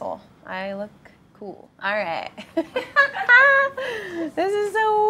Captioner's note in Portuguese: risos